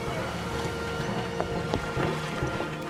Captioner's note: running footsteps